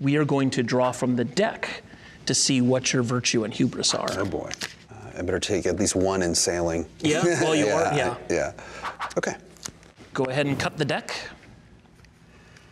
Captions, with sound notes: we are going to draw from the deck, to see what your virtue and hubris are. - Oh boy. I better take at least one in sailing. - Yeah, well you are, yeah. (laughing) - Okay. - Go ahead and cut the deck.